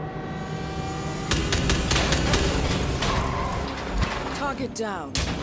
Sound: gun fires

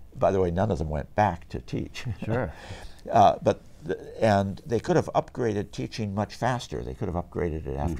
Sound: laughs

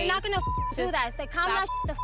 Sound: beep

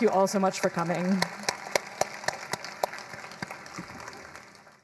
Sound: crowd applauding

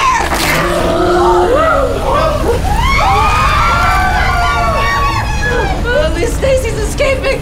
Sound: mummy roaring

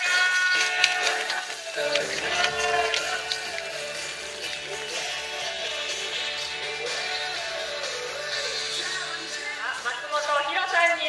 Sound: applause

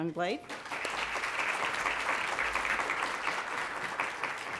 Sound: audience applauds

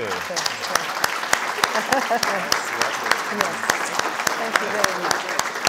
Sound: audience applauding

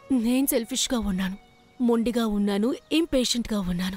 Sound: none

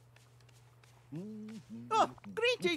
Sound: goofy Humming

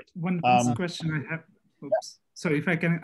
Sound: calm Voice

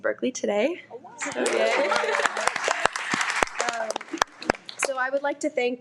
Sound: everyone applauds

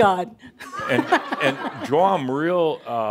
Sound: laughter

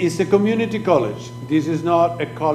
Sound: speaking foreign language

